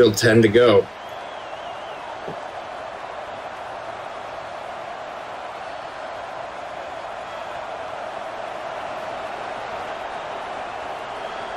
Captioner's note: crowd cheering